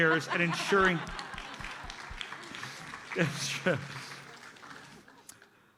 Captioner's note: audience laughs